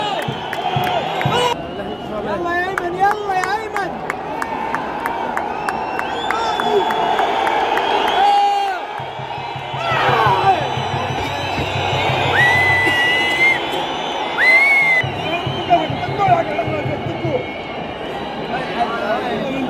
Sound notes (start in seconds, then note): 2.7 clap